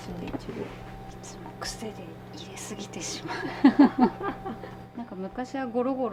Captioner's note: laughs